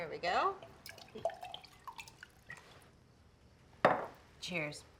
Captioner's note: wine pouring